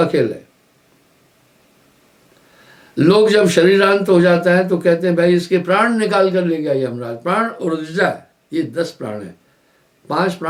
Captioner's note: breath